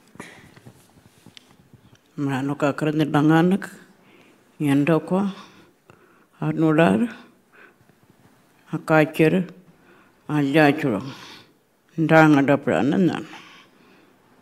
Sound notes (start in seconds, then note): 2.2 speaking Anmatyerr